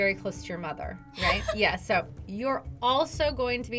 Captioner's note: laughs